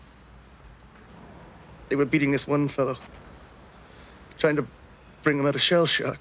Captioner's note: guns firing